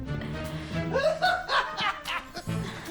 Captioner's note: laughs